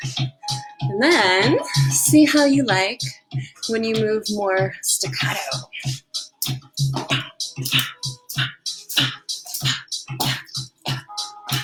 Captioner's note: breathing out, punching and jumping